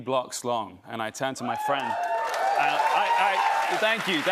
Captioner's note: cheers and applause